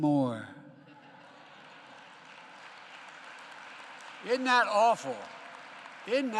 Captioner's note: laughter and applause